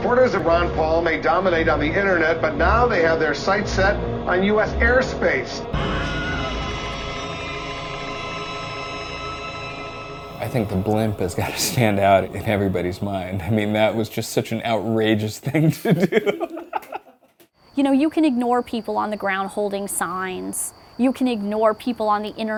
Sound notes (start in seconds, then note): 3.5 scream; 15.0 laughs